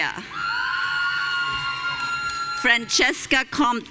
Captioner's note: audience cheering